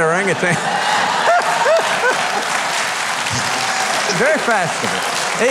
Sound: audience laughing

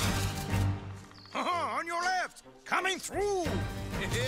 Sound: French accent

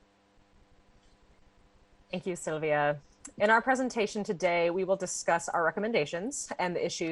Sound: speaking spanish

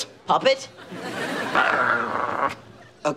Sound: growling

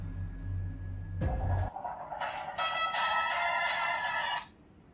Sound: phone rings

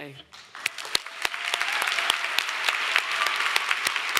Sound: audience applauding

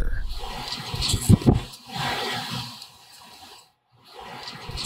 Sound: static feedback

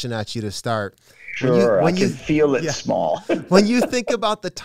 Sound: laughing

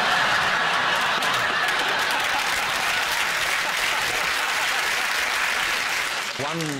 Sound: laughter and applause

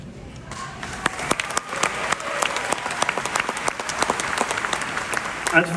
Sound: crowd cheers

